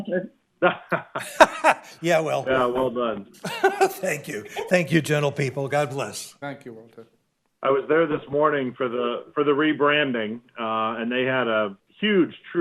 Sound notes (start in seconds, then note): 3.4 laughter